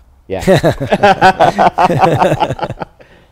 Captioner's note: laughter